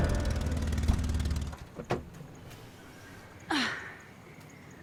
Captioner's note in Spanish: Ruido del vehículo